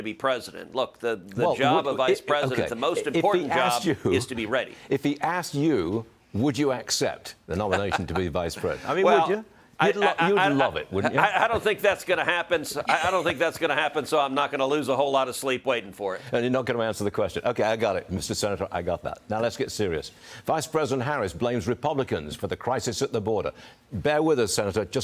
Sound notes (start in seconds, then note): 10.9 laughter